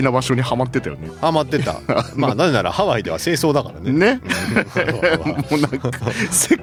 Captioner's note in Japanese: 笑い